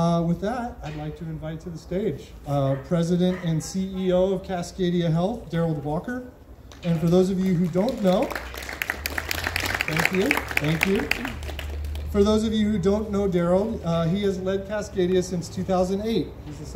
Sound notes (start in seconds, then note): 6.7 crowd claps